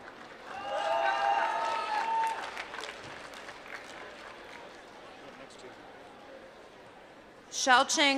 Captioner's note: applause